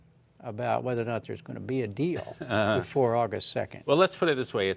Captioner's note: laughter